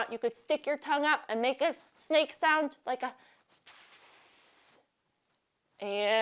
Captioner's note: hissing